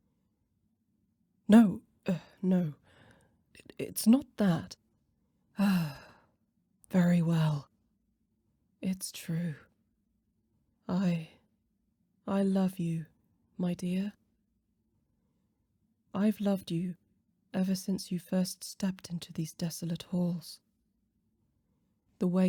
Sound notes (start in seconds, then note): 5.6 sigh